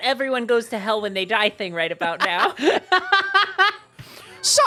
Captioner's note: laughing